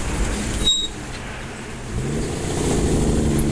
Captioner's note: car brakes screeching; car engine revving